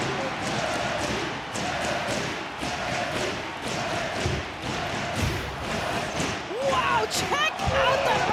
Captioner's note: audience cheering